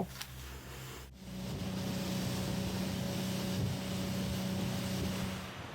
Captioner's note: boat engine roaring; calm ocean waves